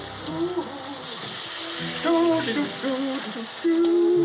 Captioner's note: humming